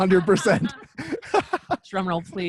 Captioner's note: laughs